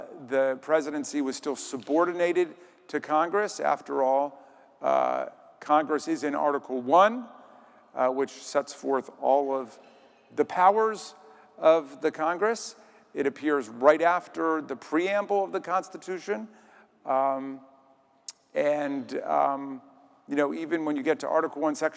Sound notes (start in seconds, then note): none